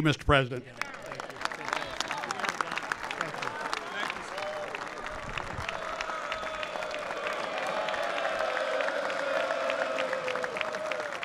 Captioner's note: applause